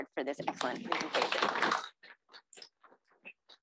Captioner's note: applause